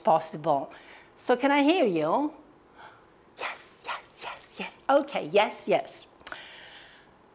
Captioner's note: whispers:yes, yes, yes